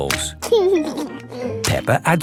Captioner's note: laughing